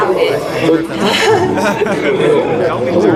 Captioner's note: nervous laughter